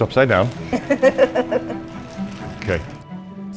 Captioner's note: laughter